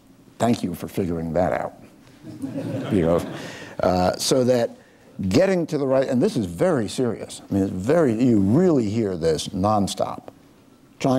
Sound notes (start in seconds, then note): 2.3 laughing